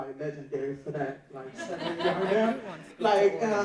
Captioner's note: audience laughing